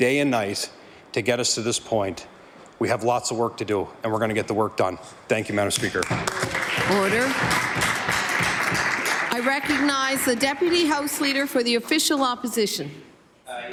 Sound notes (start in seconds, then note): 10.3 some Applause